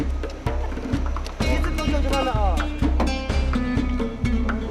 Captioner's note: Chinese spoken audio